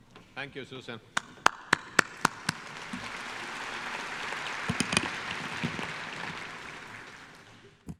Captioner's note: applause